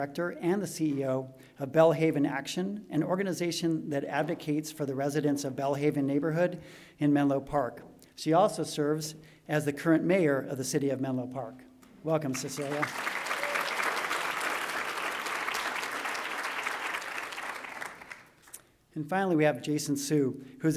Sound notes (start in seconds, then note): 12.3 applause